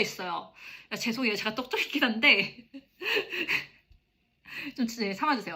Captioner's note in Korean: 웃음